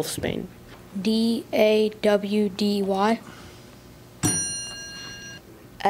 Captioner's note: ding